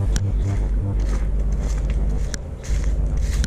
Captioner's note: footsteps